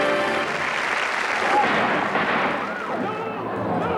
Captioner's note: gunshots